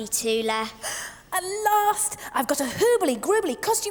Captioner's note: gasps